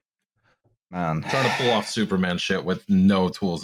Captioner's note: sighs